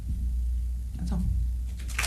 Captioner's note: applause